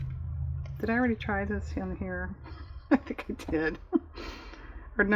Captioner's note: laughs